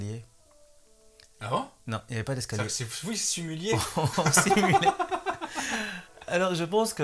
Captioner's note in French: rires